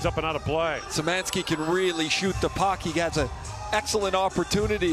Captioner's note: whistle